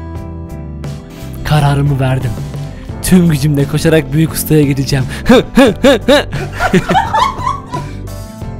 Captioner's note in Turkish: Arkada Gülüşmeler :D